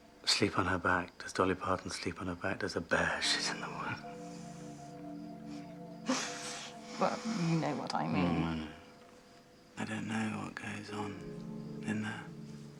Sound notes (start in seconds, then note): 5.4 chuckles